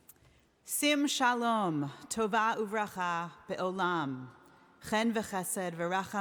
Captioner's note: speaking in foreign language